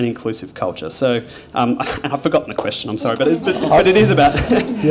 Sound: laughter

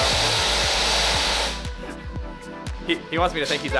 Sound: loud drill in background

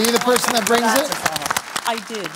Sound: applause

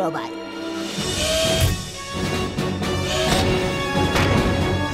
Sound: mechanical whirring

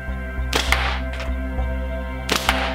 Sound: thwack; thwack

